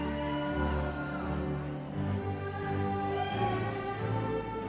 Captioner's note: audience cheering